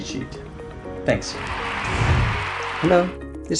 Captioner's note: cheering